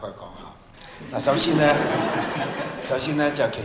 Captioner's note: laughter